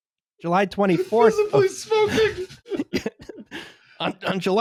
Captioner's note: high-pitched voice